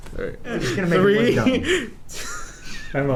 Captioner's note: laughter